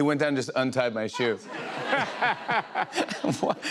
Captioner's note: laughter